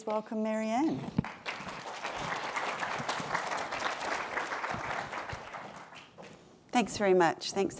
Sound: applause

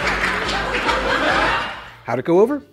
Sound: woooooooooo

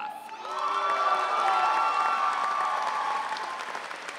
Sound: audience cheering

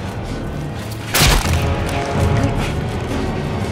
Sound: sickening crunch

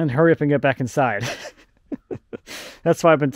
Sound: laughs

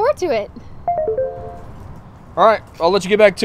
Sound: cell phone dinging

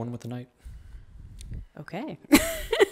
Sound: laughs

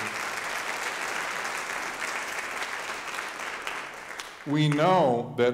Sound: audience applauding

